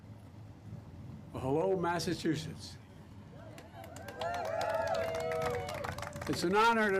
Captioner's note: applause